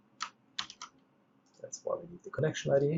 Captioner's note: keyboard clicks